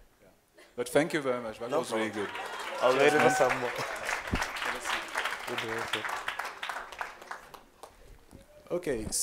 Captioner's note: applause